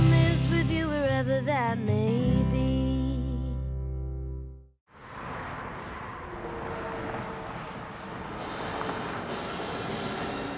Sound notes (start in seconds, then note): 8.3 highway sounds